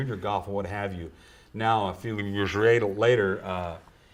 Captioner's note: cough